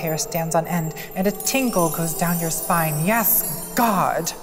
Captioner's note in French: carillons